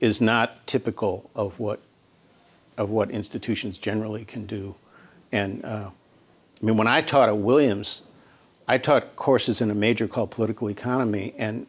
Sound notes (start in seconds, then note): none